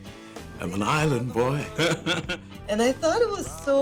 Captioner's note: laughs